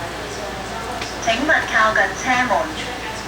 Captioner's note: Cantonese